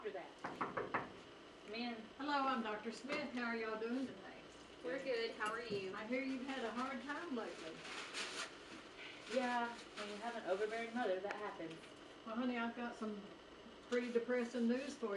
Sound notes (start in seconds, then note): 0.4 knocking; 8.9 sighs